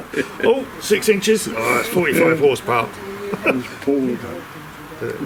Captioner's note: laughter